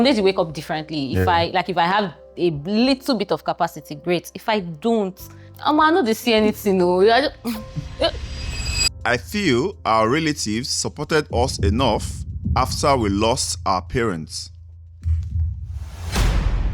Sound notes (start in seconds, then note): 7.6 laughs